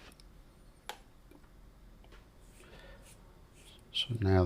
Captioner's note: silence